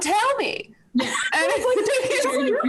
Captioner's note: laughing